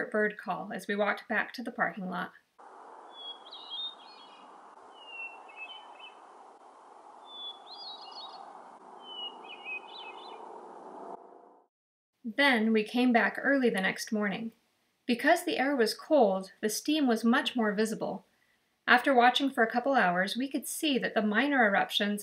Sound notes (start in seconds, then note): 2.8 bird song